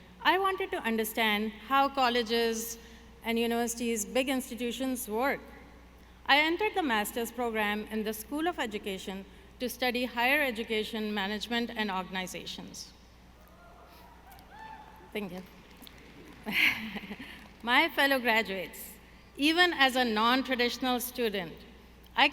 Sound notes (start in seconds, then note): 16.4 laughs